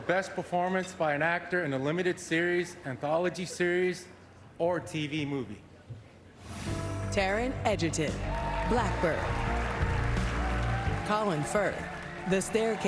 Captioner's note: applause